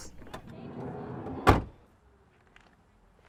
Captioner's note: door shuts